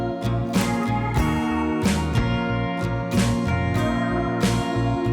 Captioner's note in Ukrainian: оплески